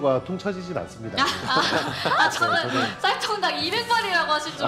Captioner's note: laughter